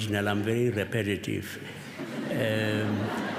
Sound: laughter

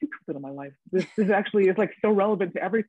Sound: woman laughing

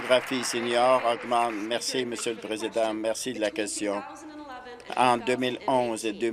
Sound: applause

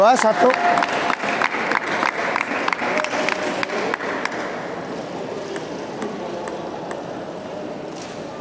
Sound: applause

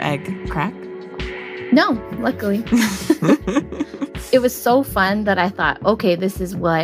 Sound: both laugh

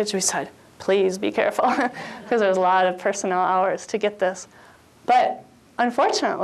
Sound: chuckles

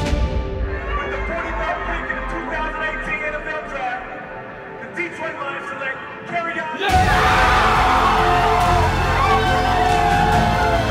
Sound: cheering

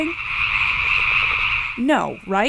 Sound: nature sounds

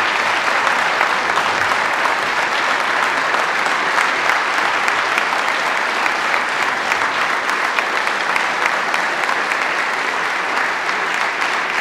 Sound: applause

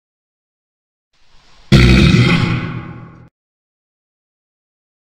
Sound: sound of grunt

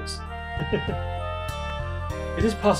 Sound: chuckles

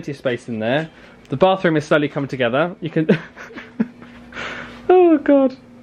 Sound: laughing

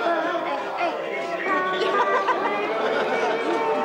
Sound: Anne laughs

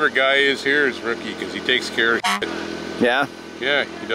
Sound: car horn honks

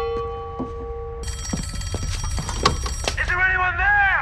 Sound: bell Rings; telephone Rings

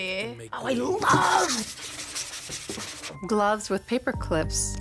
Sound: scratches table

